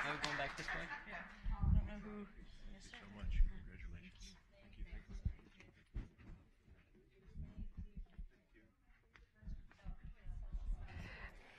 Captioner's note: applause